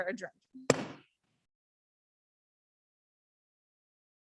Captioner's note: gavel bangs